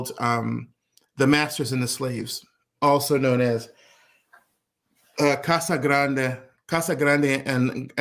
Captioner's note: speaking portuguese